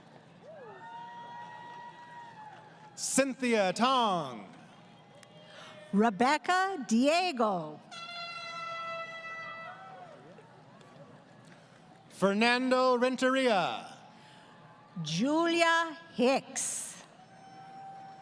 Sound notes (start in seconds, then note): 0.0 crowd Cheering; 7.9 air Horn From Audience